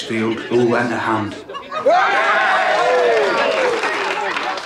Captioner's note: all cheer